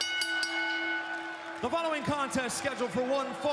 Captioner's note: bell ringing